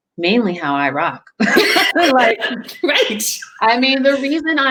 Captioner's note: laughing